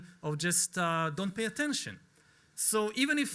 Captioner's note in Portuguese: none